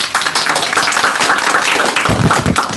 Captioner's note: audience applauding